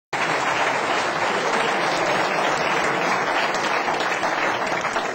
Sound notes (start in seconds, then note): 0.1 applause